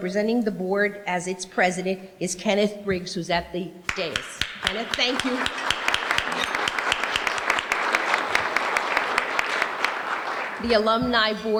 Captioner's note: applause